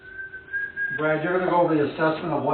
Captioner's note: whistling